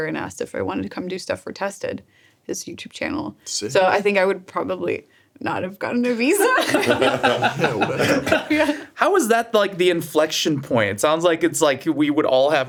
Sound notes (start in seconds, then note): 6.3 group laughs